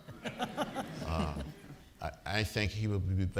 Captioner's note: audience laughing